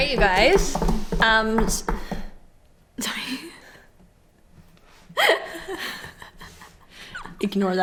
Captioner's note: aggressive table-drumming